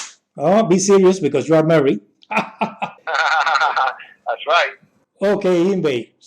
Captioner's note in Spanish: reímos